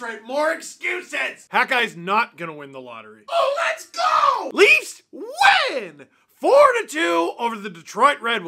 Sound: hat guy screams of joy

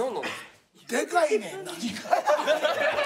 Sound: laughs

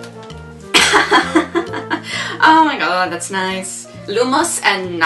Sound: laughs

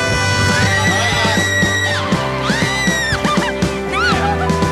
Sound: air horn blows; screaming

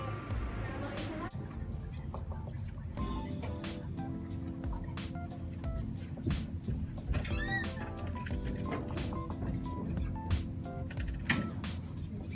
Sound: gross tapping fingertips

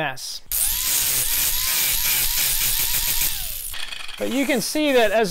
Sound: sander whirring

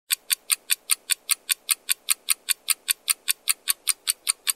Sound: clock ticking rapidly

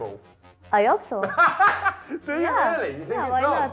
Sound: laughs

